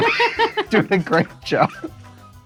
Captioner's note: laughs